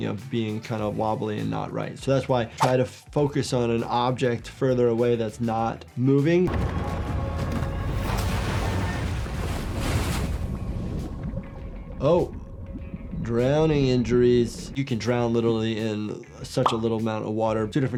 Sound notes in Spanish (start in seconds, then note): 8.1 salpicaduras de agua; 10.4 agua burbujeante